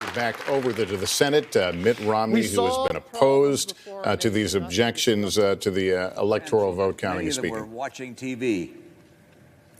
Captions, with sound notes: TOGETHER. [ APPLAUSE ] >> BACK OVER TO THE SENATE. MITT ROMNEY WHO HAS BEEN OPPOSED